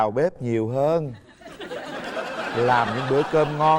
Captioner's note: laughing